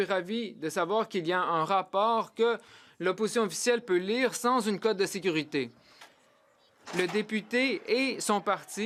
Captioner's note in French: voix de l'interprète